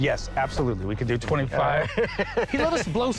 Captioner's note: laughter